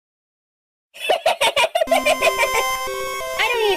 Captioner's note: laughing cause it was so funny